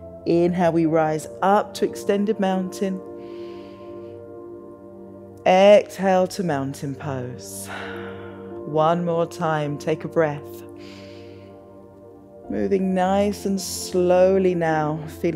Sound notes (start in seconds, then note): 3.2 inhales; 7.6 exhales; 10.8 inhales